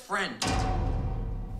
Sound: clang

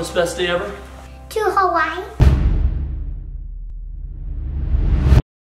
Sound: logo thudding

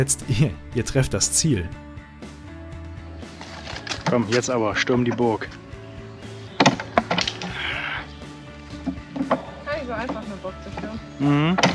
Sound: laughs

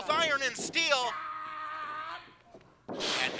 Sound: floor rumbling; yelling

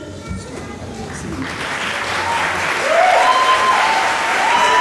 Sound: applause

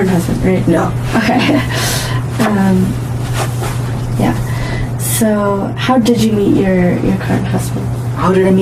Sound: laughs

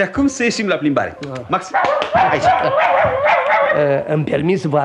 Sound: the puppy barks

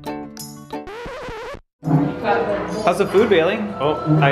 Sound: record scratch

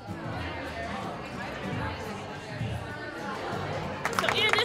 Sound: indistinct conversation

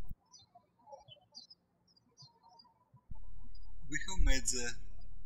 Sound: birds chirping

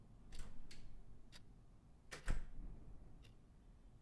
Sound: door opens

